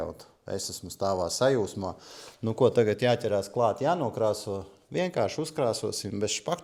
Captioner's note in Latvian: šņākšana